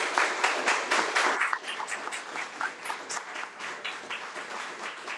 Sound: attendees applaud

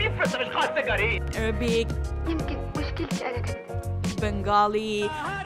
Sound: speaks foreign language

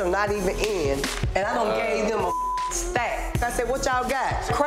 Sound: beep

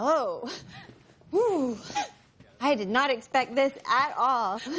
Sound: whew

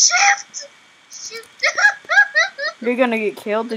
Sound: sobbing

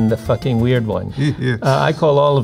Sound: chuckling

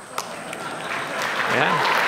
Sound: applause

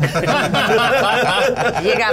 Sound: all laughing

